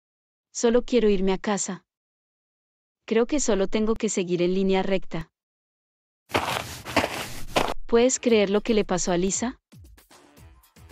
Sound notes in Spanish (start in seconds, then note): 6.3 FX - Footsteps - On Multiple Dirt - Walk